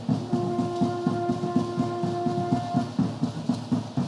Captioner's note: horn blowing